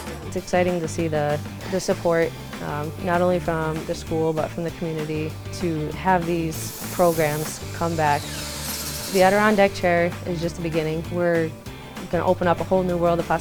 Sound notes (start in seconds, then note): 8.1 saw whirring